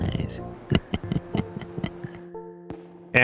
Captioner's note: laughter